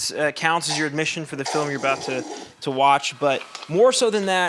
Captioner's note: Desmond slurps drink loudly